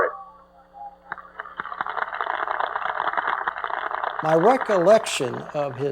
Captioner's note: applause